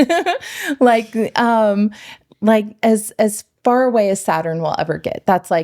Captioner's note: laughing